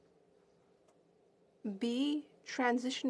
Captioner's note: speaking French